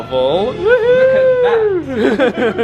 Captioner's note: laughs